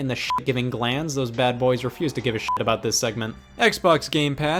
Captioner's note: beep